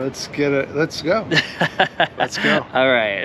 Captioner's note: giggles